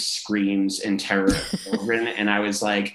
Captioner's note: laughing